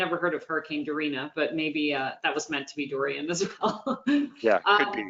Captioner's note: laughing